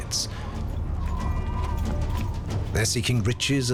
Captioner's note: wind whistling